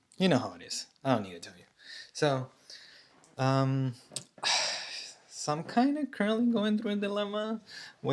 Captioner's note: sighs and gasps